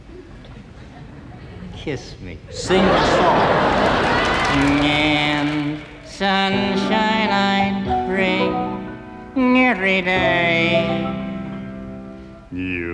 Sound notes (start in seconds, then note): 2.5 audience laughing